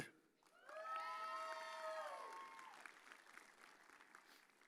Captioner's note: audience cheers